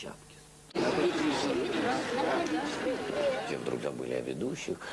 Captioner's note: overlapping chatter